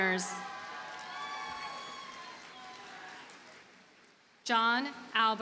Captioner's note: audience cheers and applauds